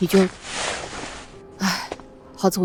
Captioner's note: sighs